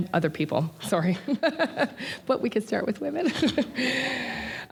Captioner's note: laughter